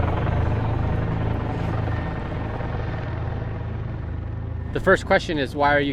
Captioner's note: helicopter whirs